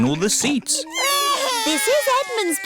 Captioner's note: babies crying